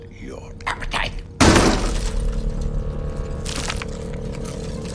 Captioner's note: sound of smashing